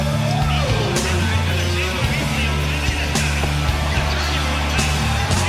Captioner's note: loudspeaker over crowd cheering